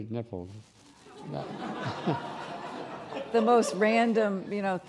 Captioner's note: laughing